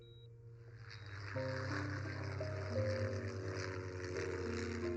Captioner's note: plane engine rumbling